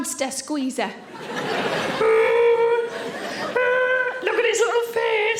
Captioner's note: audience laughing; Sarah groaning